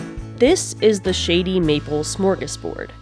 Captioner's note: none